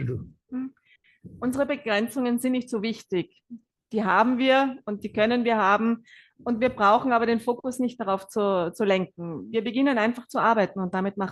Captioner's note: German live translation